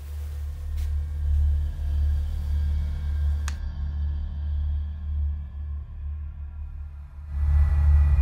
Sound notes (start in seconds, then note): 0.0 eerie shimmering cymbal sound; 3.4 light switch being switched